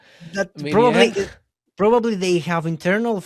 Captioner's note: laughs